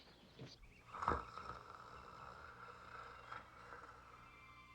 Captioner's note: man snoring